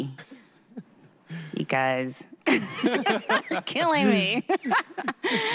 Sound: laughter

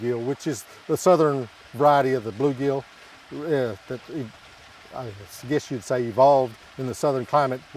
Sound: water lapping

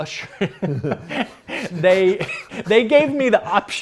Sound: laughs

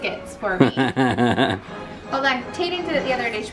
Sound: laughter

